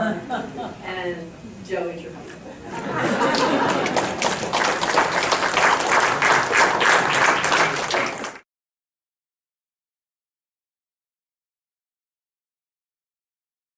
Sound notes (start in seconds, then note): 8.7 audience claps